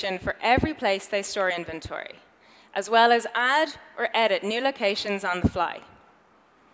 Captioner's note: none